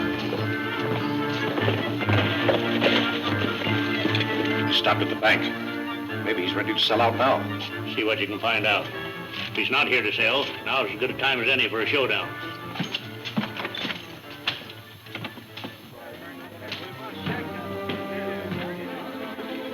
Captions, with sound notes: - He stopped at the bank. Maybe he's ready to sell out now. - See what you can find out. If he's not here to sell, now is as good a time as any for a showdown. (crowd murmuring)